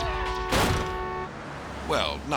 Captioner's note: horn honking; jaywalker thuds